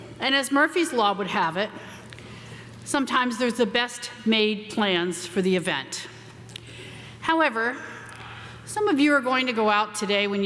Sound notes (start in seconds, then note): none